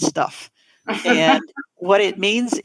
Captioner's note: laughing